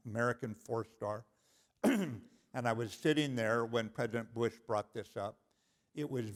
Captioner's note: cough